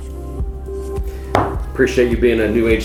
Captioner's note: knuckles rapping